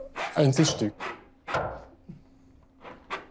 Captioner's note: throbbing